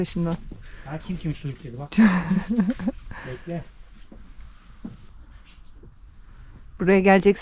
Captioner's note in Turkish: kahkaha